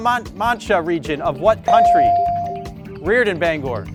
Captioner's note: bell dings